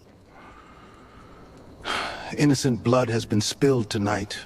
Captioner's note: campfire crackling